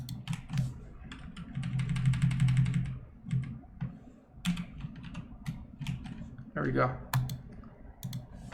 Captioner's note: rapidly typing